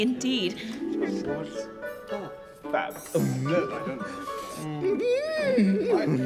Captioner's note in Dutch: mensen kwebbelen